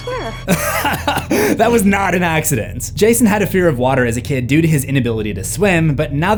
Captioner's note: laughing